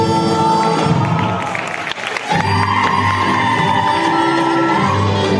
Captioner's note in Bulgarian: аплодисменти